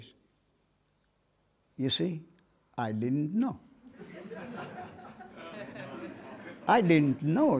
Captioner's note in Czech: smích